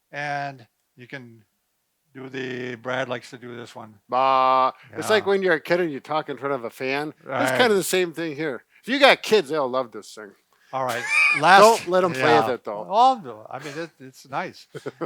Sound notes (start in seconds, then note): 10.9 chuckles